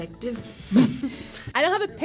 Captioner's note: laughs